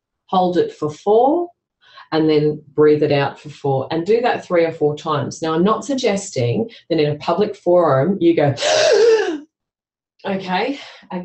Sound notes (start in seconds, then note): 8.5 inhales dramatically